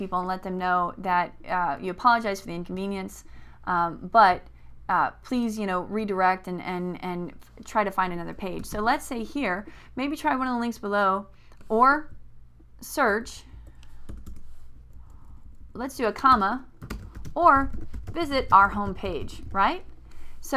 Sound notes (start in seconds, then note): 11.9 typing